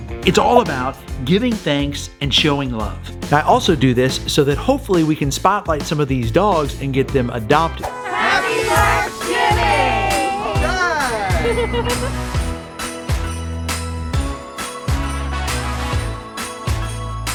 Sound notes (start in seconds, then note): 8.5 in Unison; 11.0 cheerful music